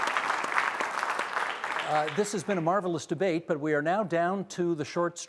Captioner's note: applause